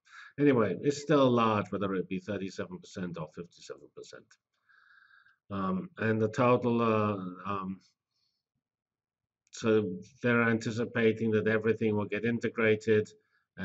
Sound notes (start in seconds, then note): 7.0 pause